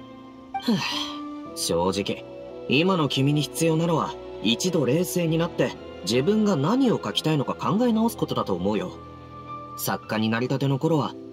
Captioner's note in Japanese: ため息